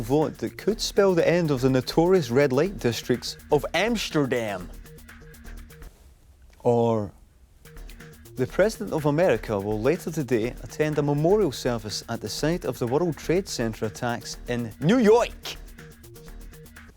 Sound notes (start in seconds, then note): none